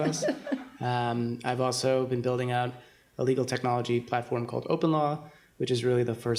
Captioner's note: chuckle